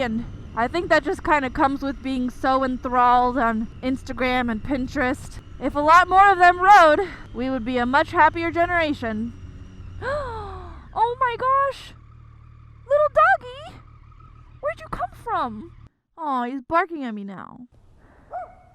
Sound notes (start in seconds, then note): 10.0 gasps; 18.2 dog barking